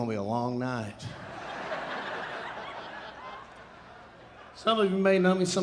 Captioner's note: audience laughing